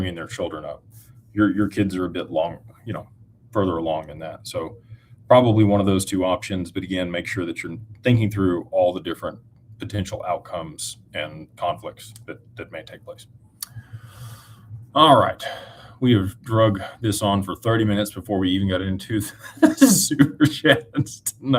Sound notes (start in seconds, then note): 19.3 laughter